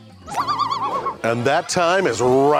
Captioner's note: bird buzzing